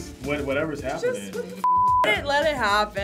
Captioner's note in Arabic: صافرة